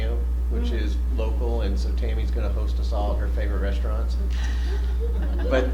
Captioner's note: laughter